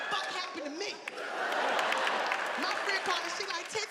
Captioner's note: audience applauding; audience laughing